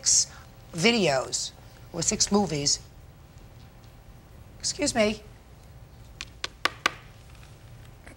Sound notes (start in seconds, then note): 6.2 pen tapping